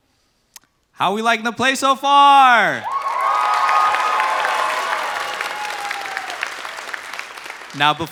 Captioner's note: applause